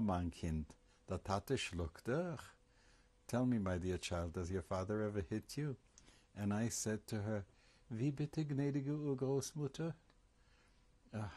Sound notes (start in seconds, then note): 7.7 german